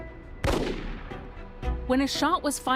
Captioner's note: gunshot booming